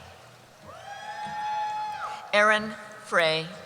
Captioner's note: cheering